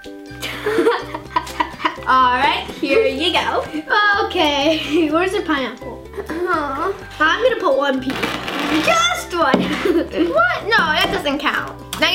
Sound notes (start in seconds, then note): 0.5 laughs; 6.3 moans